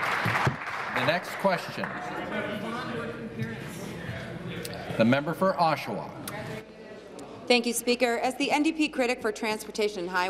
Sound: applause

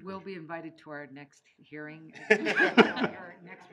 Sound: laughing

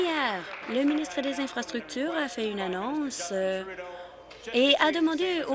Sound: applause

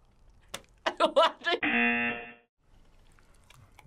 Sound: laughs; buzzer

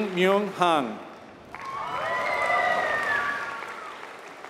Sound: applause

